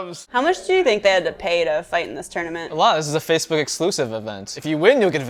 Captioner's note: none